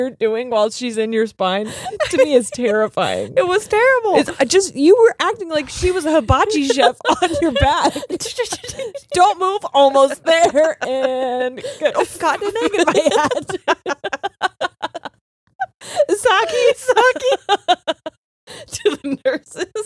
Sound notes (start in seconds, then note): 7.5 laughing; 8.3 gibbering; 11.5 laughing; 14.5 both laughing; 16.2 laughing; 18.9 both laughing